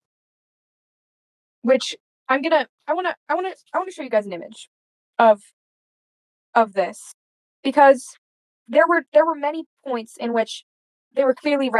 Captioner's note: stutters